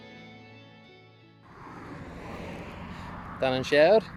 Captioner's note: zooming Cars